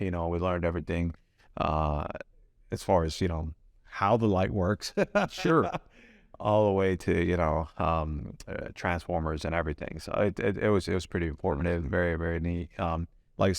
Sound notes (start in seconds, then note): 4.9 laughs